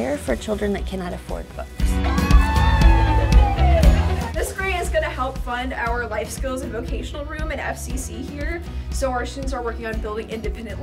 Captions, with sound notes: for children that cannot afford books. (cheering loudly) This grant is going to help fund our life skills at vocational room and FCC here. So our students are working on building independent life